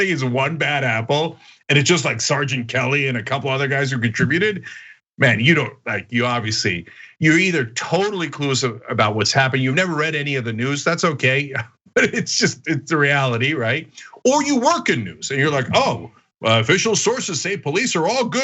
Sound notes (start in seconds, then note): 12.0 laugh